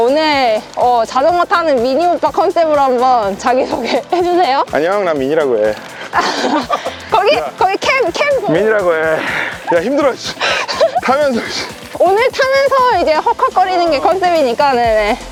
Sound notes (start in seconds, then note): 6.1 laughter; 10.3 laughter